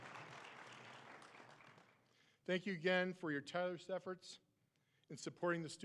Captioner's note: applause